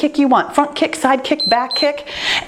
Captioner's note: timer beeps